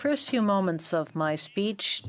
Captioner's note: speaking French